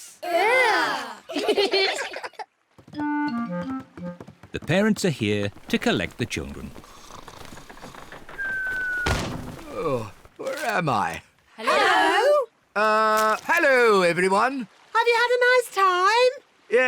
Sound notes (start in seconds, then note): 1.2 giggle; 7.6 snores